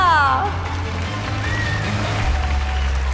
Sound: applauding

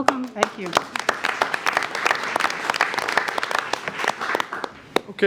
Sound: all applauding

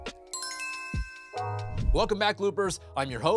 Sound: calm music; pleasant chime

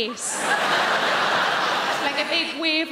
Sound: crowd laughing

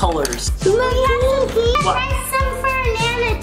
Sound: murmurs

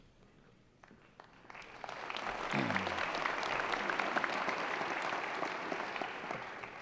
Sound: applause

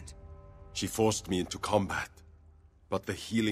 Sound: none

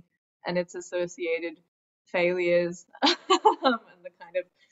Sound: laughs

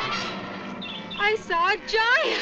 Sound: dramatic instrumental music; bird chirping

